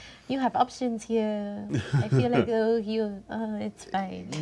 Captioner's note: stammers